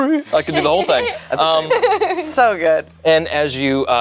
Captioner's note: group laughs